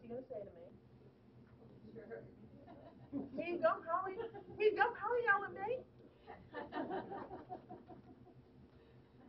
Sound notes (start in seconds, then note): 3.0 laughing; 7.1 laughing